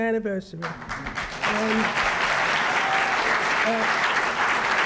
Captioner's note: applause